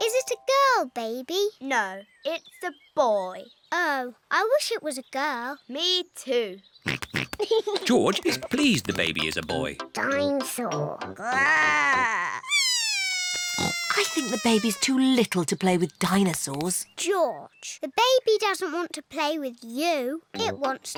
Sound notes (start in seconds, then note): 6.9 snorts and giggles; 11.2 bawls